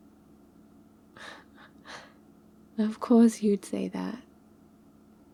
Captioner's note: laughs